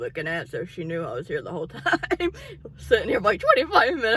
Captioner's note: laughs